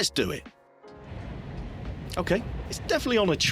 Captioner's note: train driving